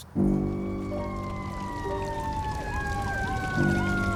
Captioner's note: emergency sirens